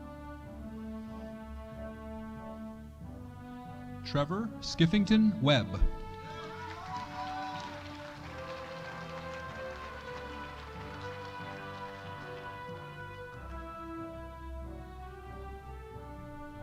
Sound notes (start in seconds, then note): 6.0 audience cheering